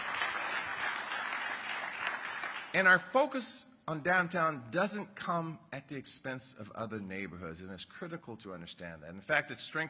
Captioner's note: applause